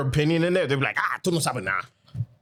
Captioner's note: speaking In Foreign Language